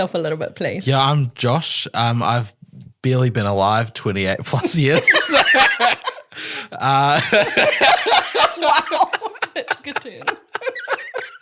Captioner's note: laughing; laughs